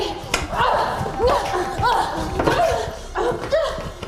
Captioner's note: both grunting